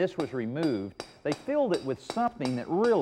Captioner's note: mason hammering